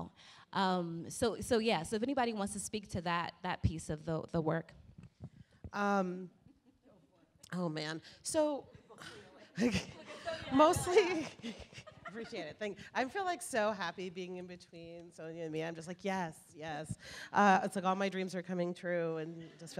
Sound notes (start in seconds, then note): 7.2 laughing